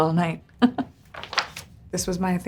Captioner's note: Priyanka laughs